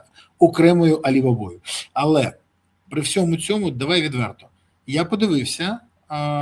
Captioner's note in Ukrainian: сопіння